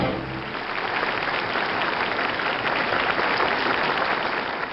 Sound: audience applauds

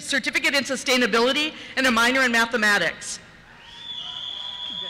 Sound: cheers

